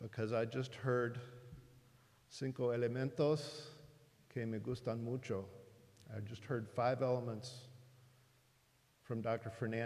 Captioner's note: speaking in spanish